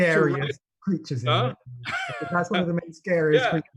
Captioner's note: laughs